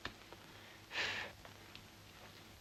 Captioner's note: Jimmy exhales